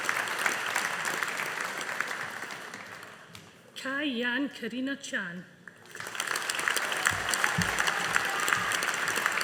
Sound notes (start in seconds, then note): 5.8 audience applauding